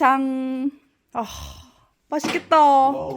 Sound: exclamation

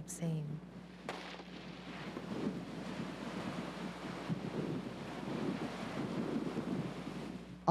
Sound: gunshot

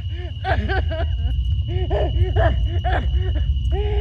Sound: sobs

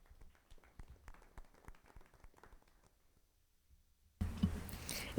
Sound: attendees applauding

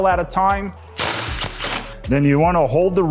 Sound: driver whirring

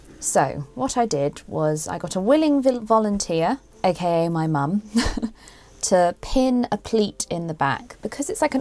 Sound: chuckles

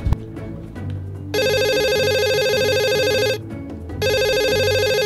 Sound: telephone rings

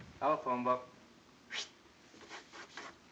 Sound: whistles

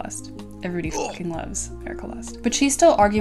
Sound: grunt

